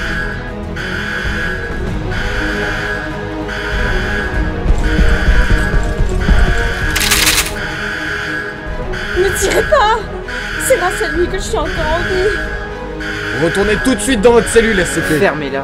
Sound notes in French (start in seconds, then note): 4.7 bruits de pas et armes qui pointent